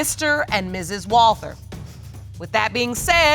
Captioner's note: none